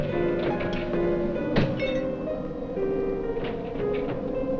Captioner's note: glass breaks